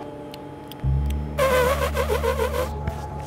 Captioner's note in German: Elefant lacht